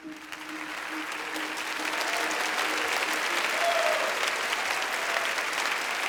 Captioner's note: audience cheering and applauding